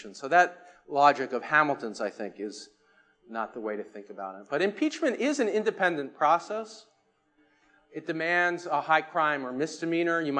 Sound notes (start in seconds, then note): none